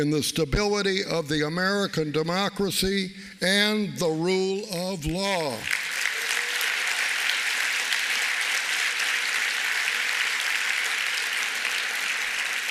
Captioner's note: applause